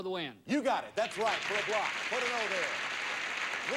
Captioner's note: audience applauding